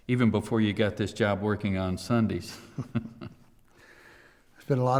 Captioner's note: chuckles